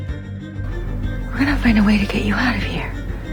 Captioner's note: voiceover